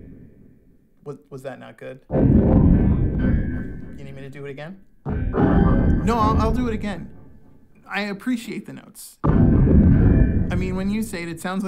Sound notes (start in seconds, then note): 0.3 robotic noise interrupts; 5.4 robotic noise repeats; 7.1 robotic noise